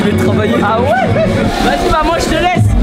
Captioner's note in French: rire